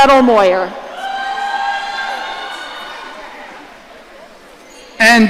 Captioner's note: audience cheering